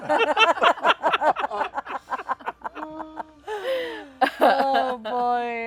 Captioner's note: laughter